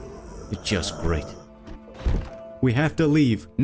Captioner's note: zombies growling